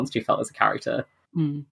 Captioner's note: laughs